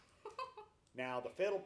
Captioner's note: laughs